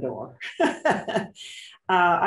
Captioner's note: laughs